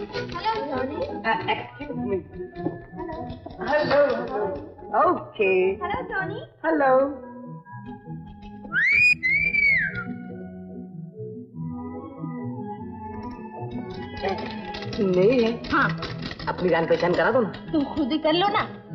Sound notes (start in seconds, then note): 8.7 whistling; 13.9 typewriter keytop clacking